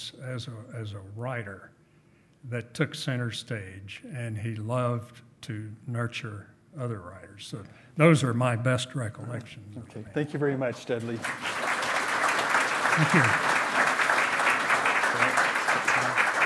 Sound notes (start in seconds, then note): 11.0 loud clapping